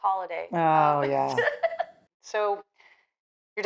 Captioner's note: Georgia laughs